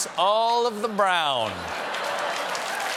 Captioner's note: applause; laughter